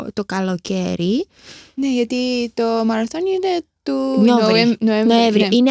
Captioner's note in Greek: χαχανίζει